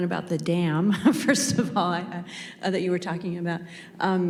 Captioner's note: chuckles